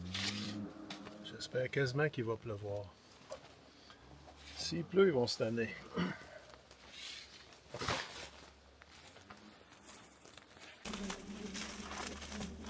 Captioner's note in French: raclement de gorge